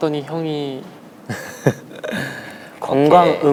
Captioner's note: crying; tears